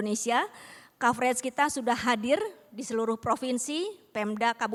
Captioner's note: non-english speech